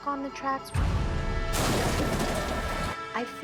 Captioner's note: crashing